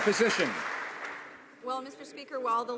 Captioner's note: some Applause